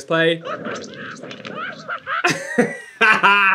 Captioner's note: laughing